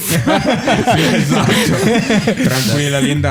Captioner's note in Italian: laughter